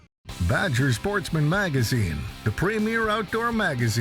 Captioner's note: voiceover